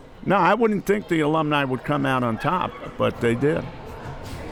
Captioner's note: laughs